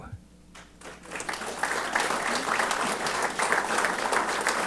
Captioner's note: applause